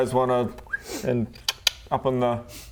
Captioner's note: whistle; click click